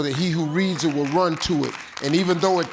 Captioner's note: audience applauding